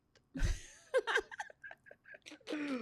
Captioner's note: laughs